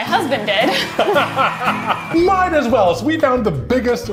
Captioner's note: laughing